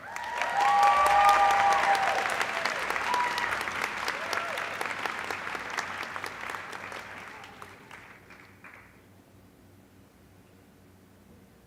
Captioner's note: applause